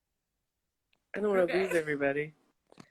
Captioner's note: laughs